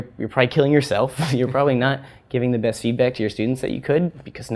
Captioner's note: laugh